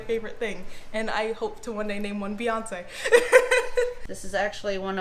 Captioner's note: laughs